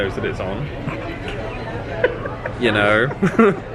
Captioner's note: laughing